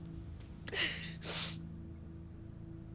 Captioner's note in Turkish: Ağlama sesi